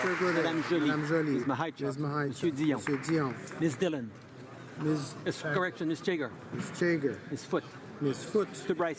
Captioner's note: applause